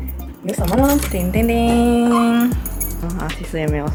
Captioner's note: deng-deng-deng